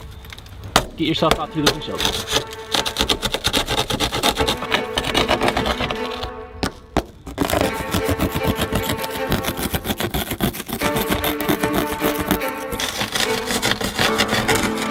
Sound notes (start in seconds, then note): 3.1 glass scraping; 6.6 tool banging; 7.4 tense music playing; 9.2 continued scraping sound